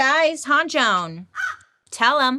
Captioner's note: bird caws